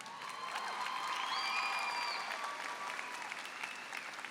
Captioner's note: applause and cheering